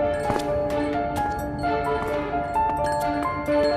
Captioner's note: dong